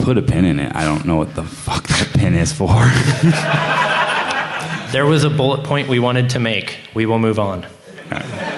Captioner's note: laughter; laughter